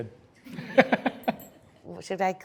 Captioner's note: laughs